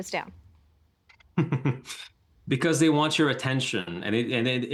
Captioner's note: chuckling